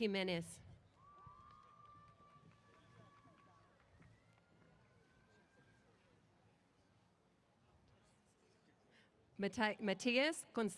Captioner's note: cheers